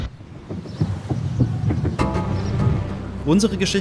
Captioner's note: dark sounds